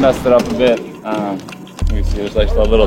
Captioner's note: clock ticking